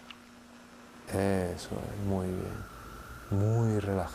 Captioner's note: coming from TV